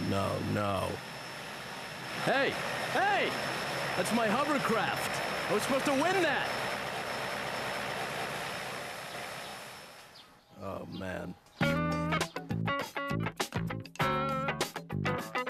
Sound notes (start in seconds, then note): 8.0 hovercraft rumbles away